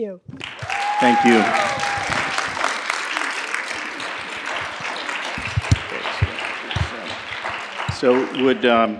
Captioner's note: cheering and Applause